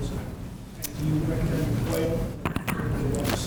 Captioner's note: microphone noise drowns out sound